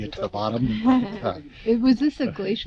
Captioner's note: laughing